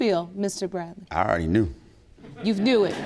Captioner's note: audience chuckling; audience applauding